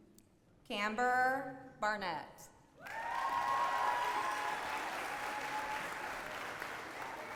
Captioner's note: applause